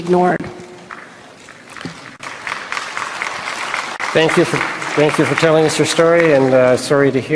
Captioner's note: applause